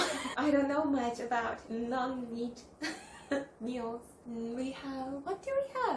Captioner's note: laughs; laughs